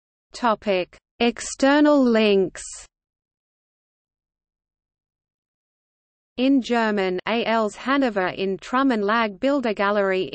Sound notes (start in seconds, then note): 4.0 in German